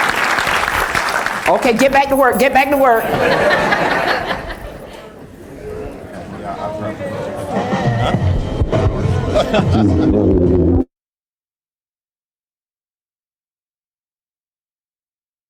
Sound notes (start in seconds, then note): 3.5 applause; 9.2 laughter